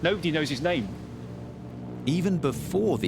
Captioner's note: low plane buzzing